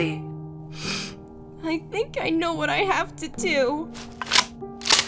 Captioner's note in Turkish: burun çekme